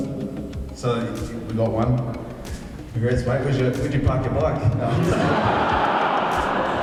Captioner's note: audience laughs